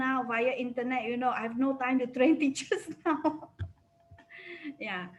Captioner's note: laughs